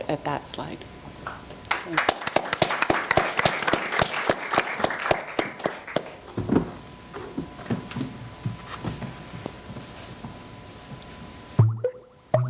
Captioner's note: applause